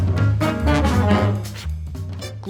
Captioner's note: blows